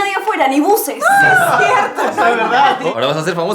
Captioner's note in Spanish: risas